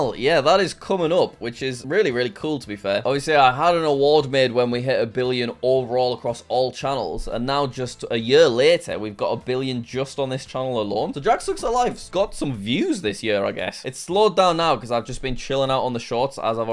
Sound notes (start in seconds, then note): none